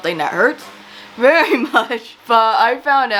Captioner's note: laughs